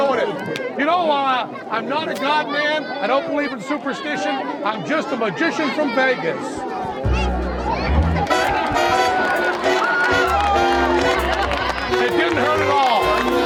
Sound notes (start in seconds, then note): 8.6 crowd cheering